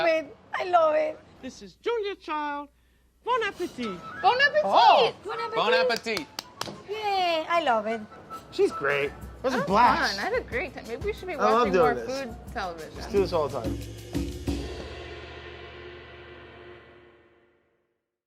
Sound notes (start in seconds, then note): 5.8 clapping; 13.6 cymbal flares